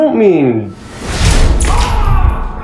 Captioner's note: gunshot; screams